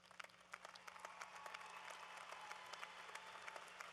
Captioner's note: applause